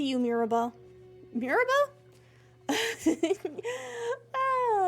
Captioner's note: laughter